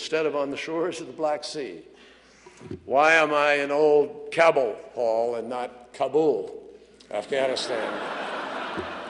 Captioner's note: laughter